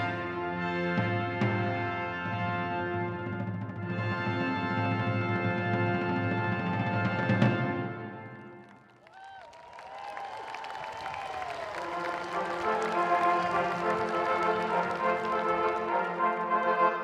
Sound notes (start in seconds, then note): 8.5 audience applauding; 8.7 audience cheering